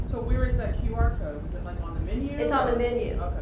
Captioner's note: voiceover